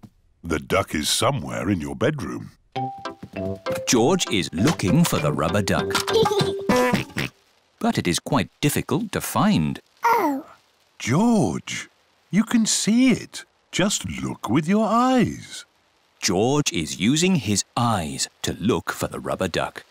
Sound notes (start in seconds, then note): 6.2 giggles and oinks